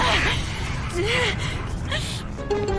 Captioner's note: whimpers while more of her bones crack